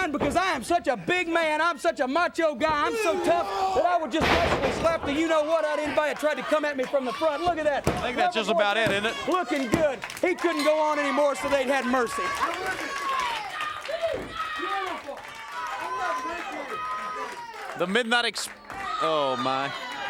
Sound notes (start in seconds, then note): 12.4 crowd clapping